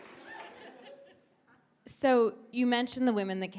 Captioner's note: audience laughs